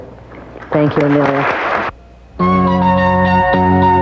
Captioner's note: audience applauds; upbeat music